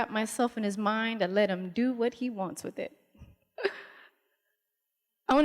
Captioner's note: laughs